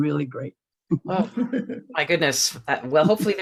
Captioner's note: laughing